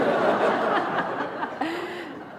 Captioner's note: laughter